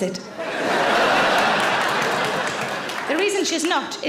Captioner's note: audience laughs and claps